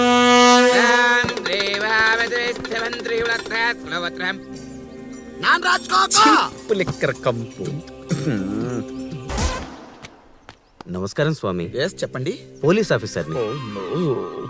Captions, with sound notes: (Dummy chants) (Screams) - Foul cheap liquor smell! Hello Sir - Yes, please say I’m a Police officer - Oh no!